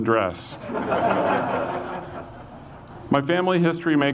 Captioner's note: audience laughs